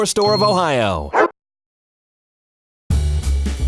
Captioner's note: dog barking; jazz music